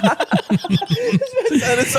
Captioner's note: laughing